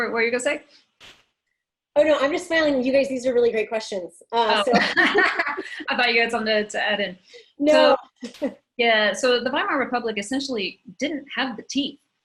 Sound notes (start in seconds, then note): 7.6 laughs